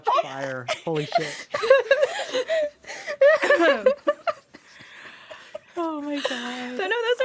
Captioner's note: laughter